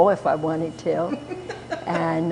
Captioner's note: laughter